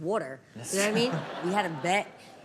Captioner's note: audience laughs